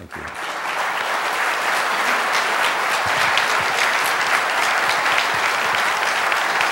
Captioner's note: applause